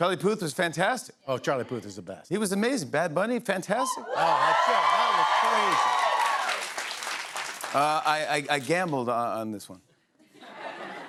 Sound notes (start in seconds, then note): 4.0 cheers and applause